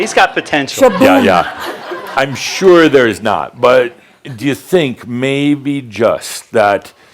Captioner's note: more laughter